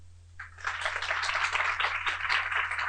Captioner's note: applause